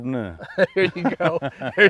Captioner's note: laughing; laughs